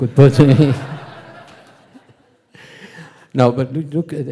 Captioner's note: audience laughing